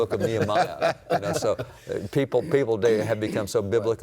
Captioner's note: laughs